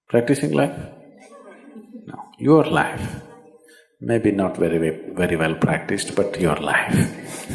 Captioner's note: laughs